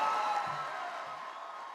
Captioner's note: cheering and applause